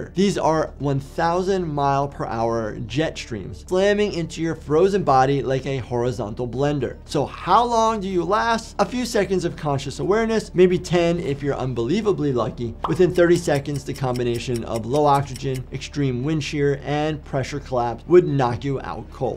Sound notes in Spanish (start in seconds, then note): 13.2 el reloj avanza